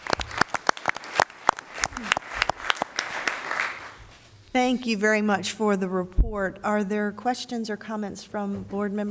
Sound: applause

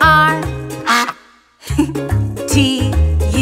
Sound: duck quacks

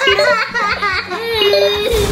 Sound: beeping; kids laugh

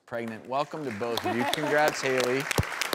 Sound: audience applauds; laughs; audience applauds

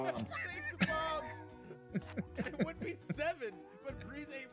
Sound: laugh

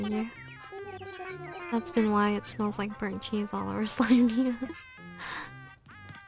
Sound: laughs

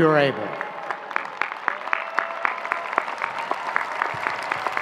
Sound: audience clapping

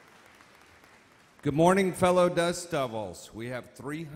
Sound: voiceover

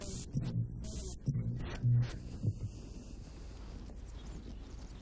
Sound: electronic crackling

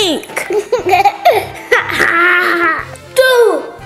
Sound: laughing

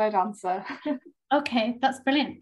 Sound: chuckles

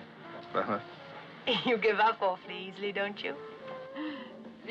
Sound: laughing

